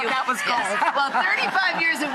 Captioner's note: laughing